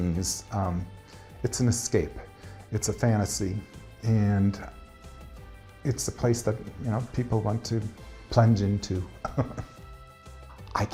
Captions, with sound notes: It's an escape, it's a fantasy. And it's a place that people want to plunge into. (chuckles)